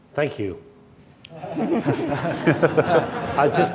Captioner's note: laughing